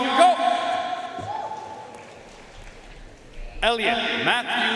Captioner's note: audience cheering and applauding